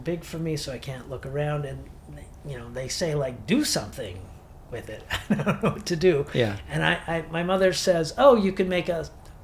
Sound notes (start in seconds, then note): 5.0 laughs